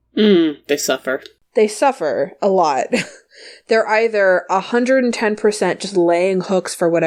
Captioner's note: laughs